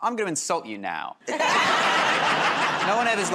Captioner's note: laughter